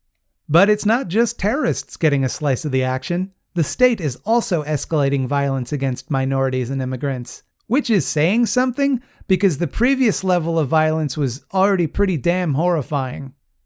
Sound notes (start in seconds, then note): none